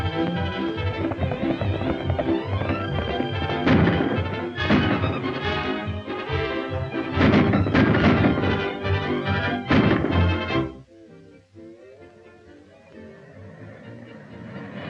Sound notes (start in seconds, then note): 4.1 gun firing; 6.9 guns firing; 11.3 gentle orchestral music